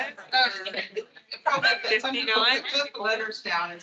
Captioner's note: attendees laughing